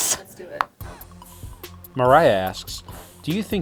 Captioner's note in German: Voice-over